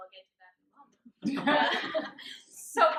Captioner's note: laughter